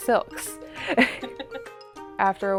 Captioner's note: chuckles